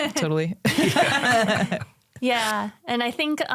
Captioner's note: all laugh